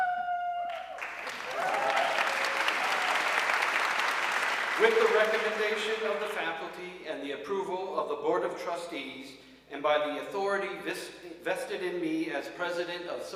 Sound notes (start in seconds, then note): 0.0 audience cheering and applauding